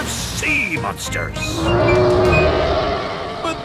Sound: roaring

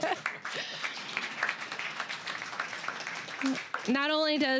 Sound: laughing; applause

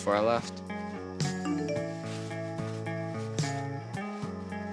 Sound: cellphone chimes

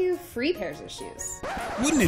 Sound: record scratch

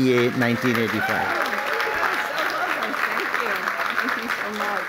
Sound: applause

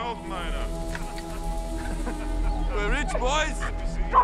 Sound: laughing mockingly

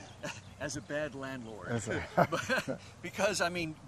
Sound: both chuckle

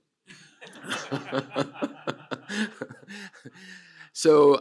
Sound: laughter

